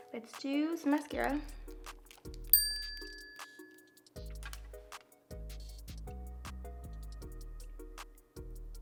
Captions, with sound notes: Let's do some Mascara. [tone chime] [gentle music]